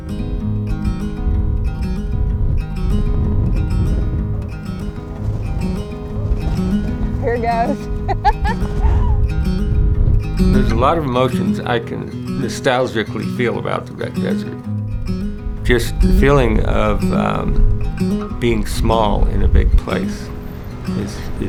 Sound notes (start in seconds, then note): 0.2 dramatic acoustic music; 8.1 laughs